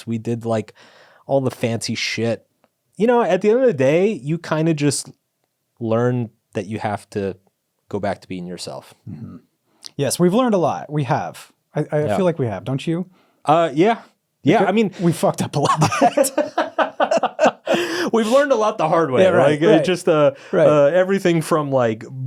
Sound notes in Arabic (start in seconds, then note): 15.6 كلاهما يضحك